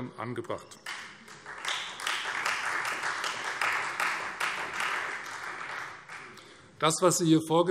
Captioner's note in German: Beifall Freie Demokraten